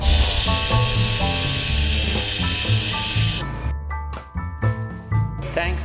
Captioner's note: high-speed air tool sounds